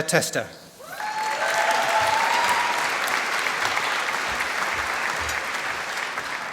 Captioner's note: applause